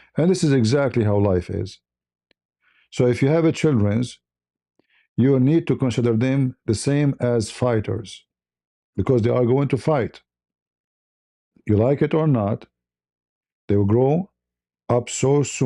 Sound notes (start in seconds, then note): none